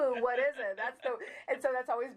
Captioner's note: laughing